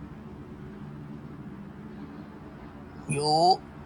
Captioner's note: noisy city